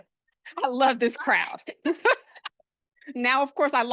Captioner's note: chuckles